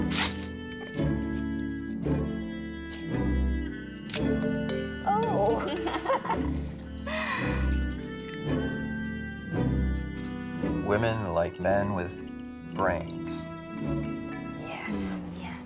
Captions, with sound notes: - Oh! (girls laughing) - Women like men with brains. - Yes. - Mm, yes.